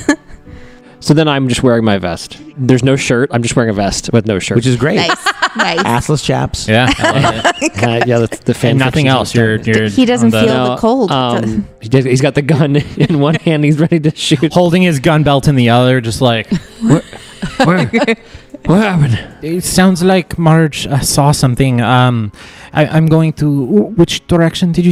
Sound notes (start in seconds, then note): 0.0 laughs; 6.8 laughs